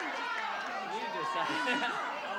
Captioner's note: laughs